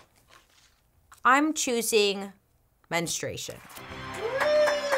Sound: audience cheers

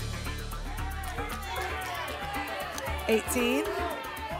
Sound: audience shouting numbers

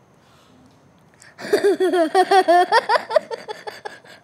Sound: laughs

